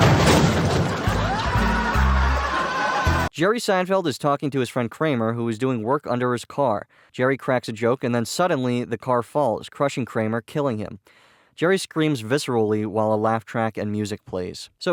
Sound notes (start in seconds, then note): 1.0 Seinfeld screams, but is muffled by the stinger